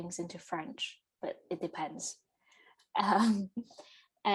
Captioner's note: giggles